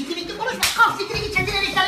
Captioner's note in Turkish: şaplak